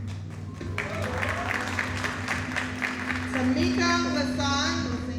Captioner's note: audience applauding